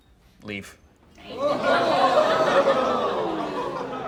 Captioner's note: crowd